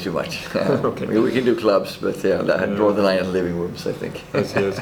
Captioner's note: laughing